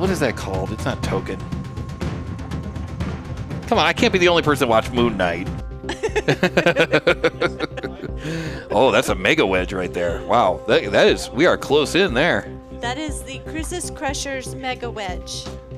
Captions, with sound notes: What is that called, it's not token. Come on, I can't be the only person to watch Moon Knight. (laughing) Oh, that's a Mega Wedge right there. Wow, we are close in there. That is the Cruises Crusher's Mega Wedge.